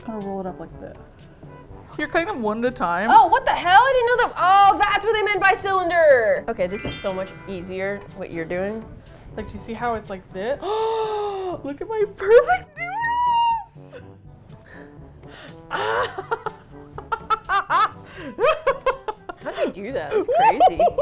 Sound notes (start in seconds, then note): 10.6 gasps; 12.8 squealing with delight; 15.7 laughs feverishly